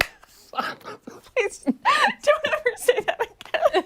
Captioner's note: laughter